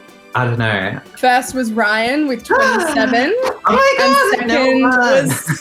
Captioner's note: gasps